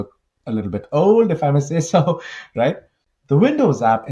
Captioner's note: laughs